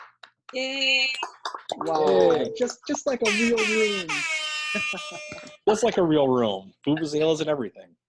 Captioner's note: applause